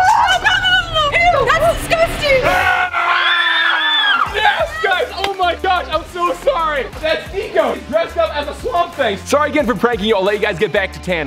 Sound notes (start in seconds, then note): 2.4 girls scream